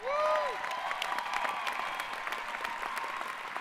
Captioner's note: applause